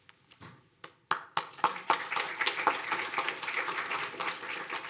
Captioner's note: audience applauding